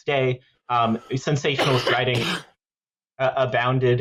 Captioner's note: coughs